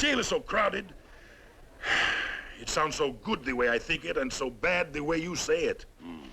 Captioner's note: sighs